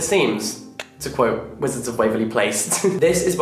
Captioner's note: laughing